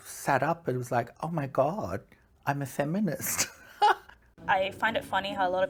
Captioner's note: laughs